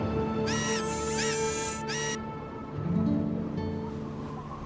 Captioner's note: robot whirring